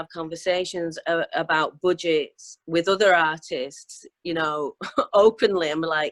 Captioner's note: laughing